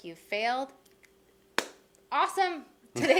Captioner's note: claps